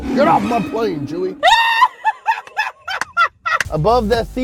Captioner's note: laughter